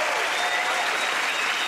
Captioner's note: cheers and applause